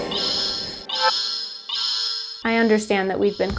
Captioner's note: alarm blaring